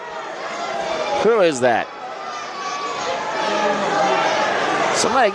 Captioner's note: crowd murmurs